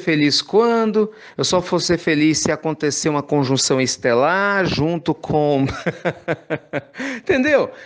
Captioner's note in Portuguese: risos